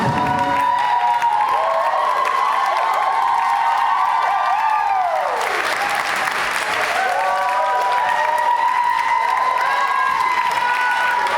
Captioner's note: audience cheers